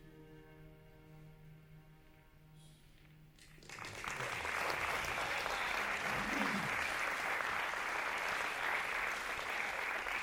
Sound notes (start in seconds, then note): 1.0 applause